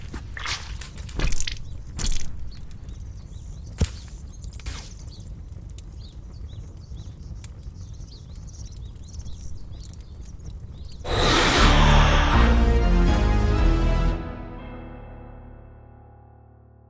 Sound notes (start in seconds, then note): 0.3 blood squirting; 4.7 fire burning; 4.8 birds chirping; 11.0 angry roar